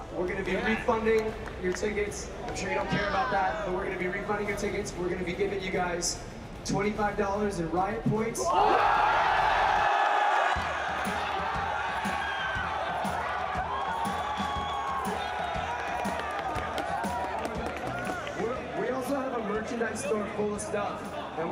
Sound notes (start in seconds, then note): 8.4 cheering